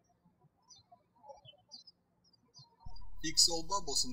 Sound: birds chirping

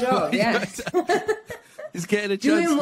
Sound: laughing

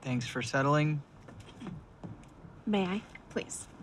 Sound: clears throat

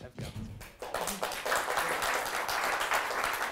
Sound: applause

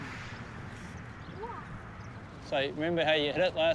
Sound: child exclaims

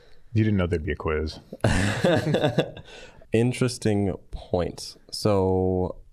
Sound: all laughing

